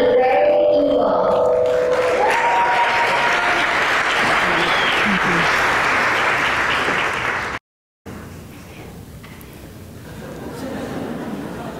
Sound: cheering and applause

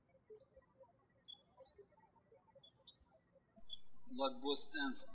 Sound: birds chirping

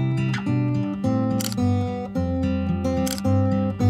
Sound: camera shutters

